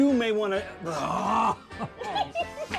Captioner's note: screams in frustration; laughs